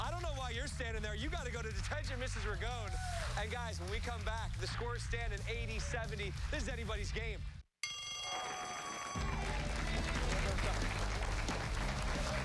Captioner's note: cheers and applause